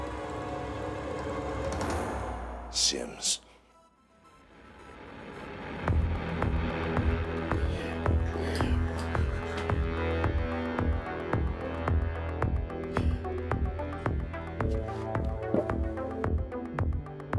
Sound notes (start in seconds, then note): 9.3 Mason sobbing quietly; 13.8 dramatic upbeat music